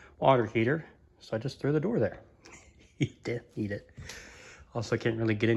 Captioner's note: chuckles